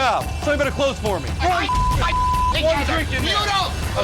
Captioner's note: beep